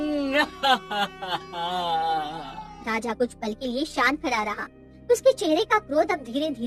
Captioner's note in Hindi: हंसी